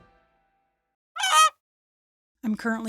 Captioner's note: squeaking